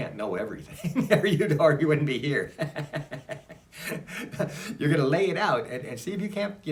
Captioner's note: laughs; laughs